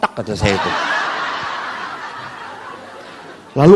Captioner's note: audience laughs